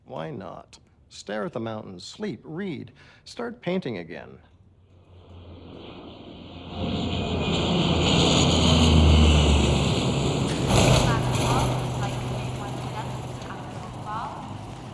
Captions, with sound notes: - Why not, stare at the mountains, sleep, read, start painting again. (plane engine rumbling) (muffled airport announcements)